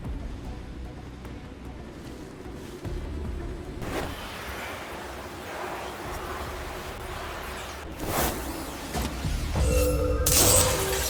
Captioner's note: ominous music; glass shattering